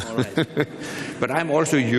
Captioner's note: laughs